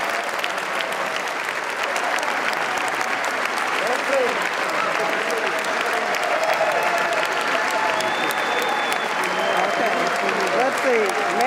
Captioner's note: cheers and applause